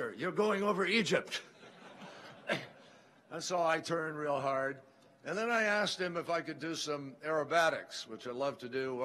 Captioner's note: laughter